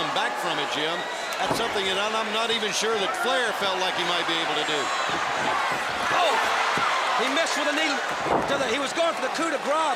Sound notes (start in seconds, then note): 4.7 crowd cheering